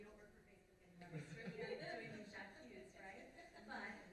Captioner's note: laughter over inaudible quip